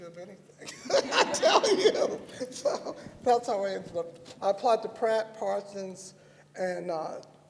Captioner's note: laughter